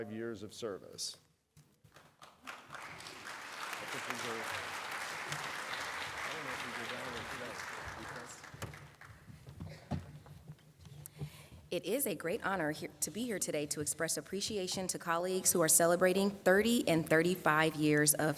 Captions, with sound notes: be recognizing our colleagues with 30 and 35 years of service. [ Applause ] It is a great honor to be here today to express appreciation